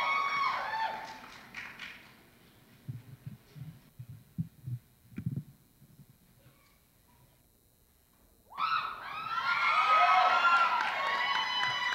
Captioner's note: applause